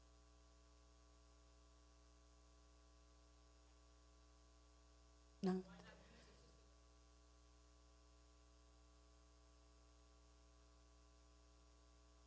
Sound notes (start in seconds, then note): 9.1 speaking away from mic